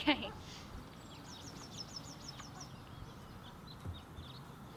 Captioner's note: birds chirping